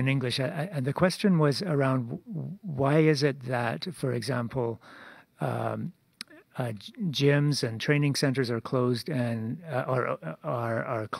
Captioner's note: speaking French